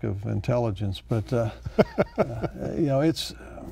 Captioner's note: laughs